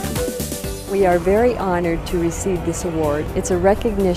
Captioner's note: voiceover